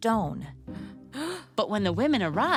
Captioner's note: gasps